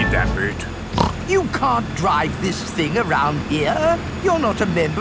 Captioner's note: snorts